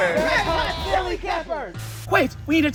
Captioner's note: chants